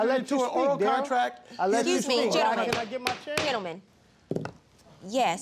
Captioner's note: banging gavel